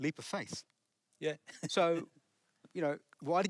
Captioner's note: chuckles